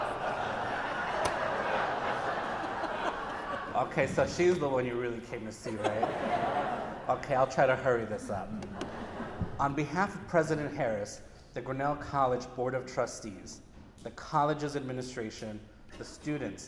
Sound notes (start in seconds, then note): 5.3 audience laughing